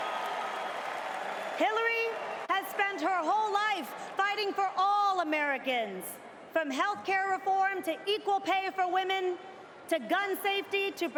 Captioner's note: cheers and applause